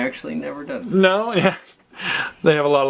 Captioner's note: laughs